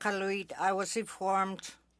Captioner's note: speaking Indigenous Language